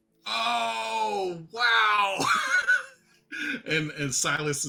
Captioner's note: laughs